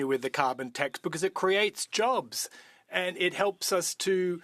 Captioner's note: speaking French